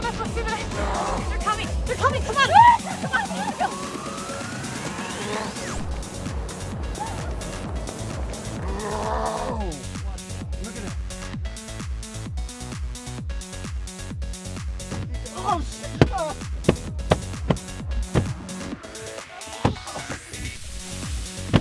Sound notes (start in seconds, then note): 5.7 air raid sirens; 11.8 uptempo music